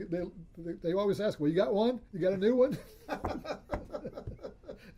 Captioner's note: laughs